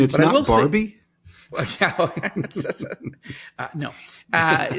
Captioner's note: both laughing